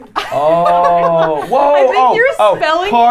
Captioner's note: laughing